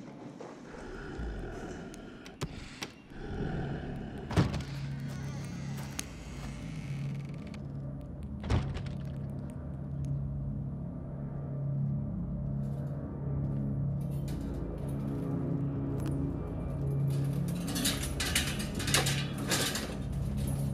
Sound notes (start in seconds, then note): 4.7 door squeaking; 8.9 suspenseful music; 17.2 metal clanking